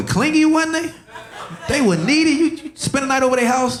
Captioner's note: audience laughing